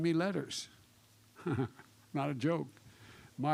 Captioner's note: laughs